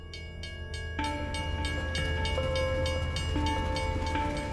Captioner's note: train bells ringing